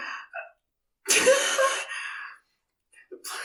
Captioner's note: awkward laughter